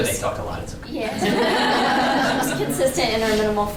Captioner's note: all laugh